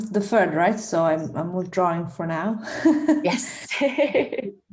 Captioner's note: laughs